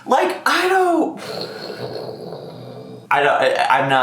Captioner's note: sighs awkwardly